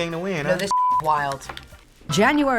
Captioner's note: beeping